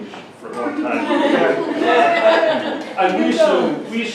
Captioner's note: laughter